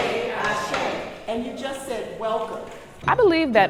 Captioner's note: video begins with group reciting African language